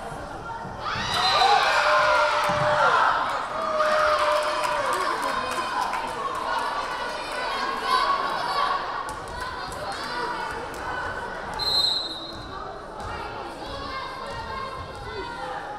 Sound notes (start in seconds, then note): 0.8 crowd cheering; 1.1 whistle blaring; 11.6 whistle blaring